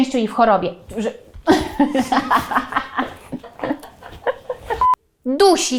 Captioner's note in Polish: Śmiech